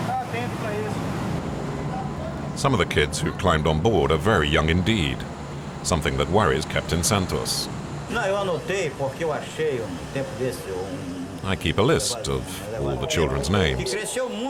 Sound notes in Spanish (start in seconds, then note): 7.9 <i>habla en portugués</i>